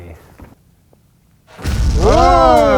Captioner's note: booming